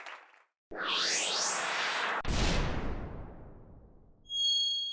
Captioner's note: soaring and thumping